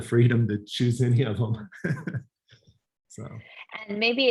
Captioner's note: laugh